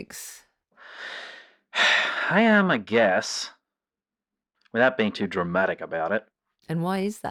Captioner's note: frustrated breath